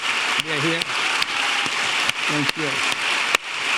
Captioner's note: audience applauding